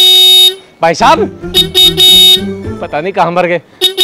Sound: horn; horn

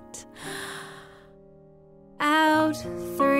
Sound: inhaling

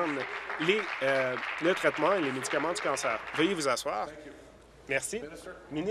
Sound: applause

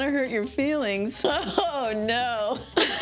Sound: laughing; both laugh

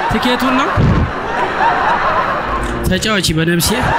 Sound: laughter

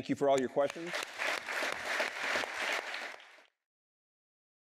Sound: applause

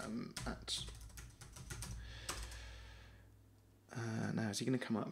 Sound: typing on keyboard

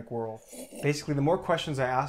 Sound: Teddy slurping

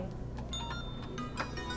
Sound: bell rings

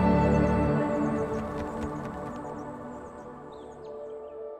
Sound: wings flapping; gentle music

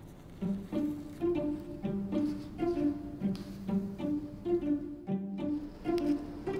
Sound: classical music; fabric rustling

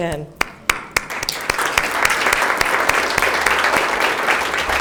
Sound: all applauding

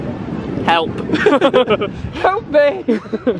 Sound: laughter

